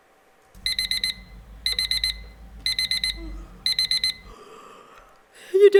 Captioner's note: an alarm clock sounds